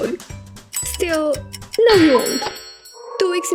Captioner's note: clock ticking; cuckoo!